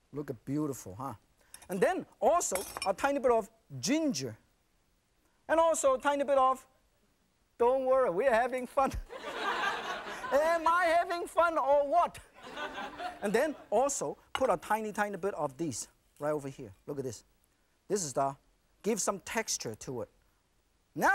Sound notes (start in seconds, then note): 9.1 audience laughing